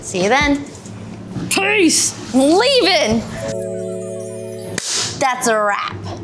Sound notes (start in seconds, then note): 3.8 gentle music; 4.8 clapper board clapping